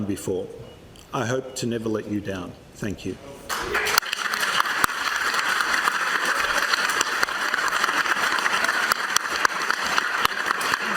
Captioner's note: applause